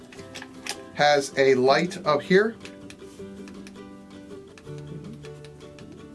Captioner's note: light clicking